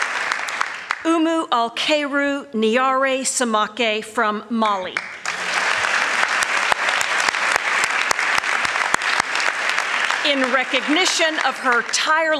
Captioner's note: applause; applause